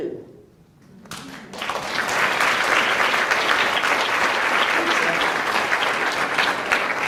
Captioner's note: applauds